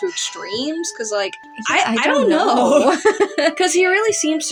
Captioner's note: laugh